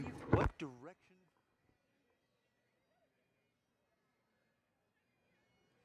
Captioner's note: attendees chattering